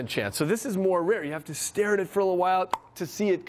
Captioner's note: pops tongue